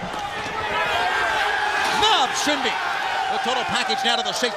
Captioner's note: crowd chatter